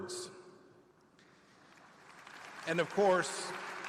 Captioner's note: applause